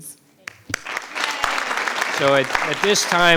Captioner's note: audience applauding